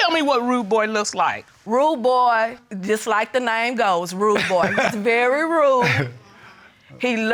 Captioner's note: chuckles